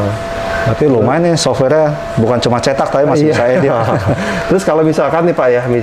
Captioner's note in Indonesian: tertawa kecil